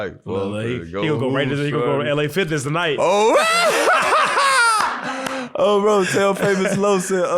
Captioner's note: laughs